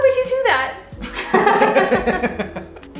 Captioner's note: laughter